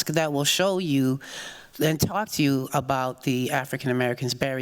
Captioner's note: none